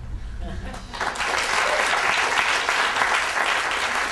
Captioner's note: audience applause